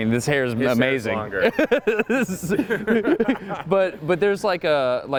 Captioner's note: laughs